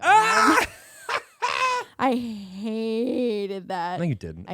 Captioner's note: laughing